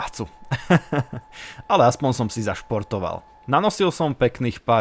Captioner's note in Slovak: smiech